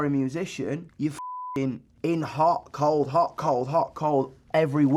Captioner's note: beep